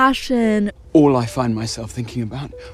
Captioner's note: soundbite of tv show, "bridgerton"